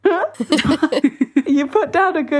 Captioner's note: both laughing